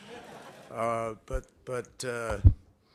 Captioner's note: laughter